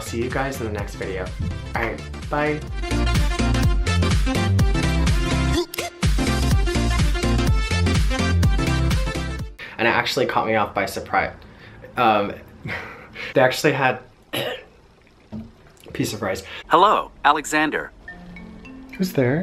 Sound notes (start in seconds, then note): 3.9 upbeat electronic music; 14.3 clears throat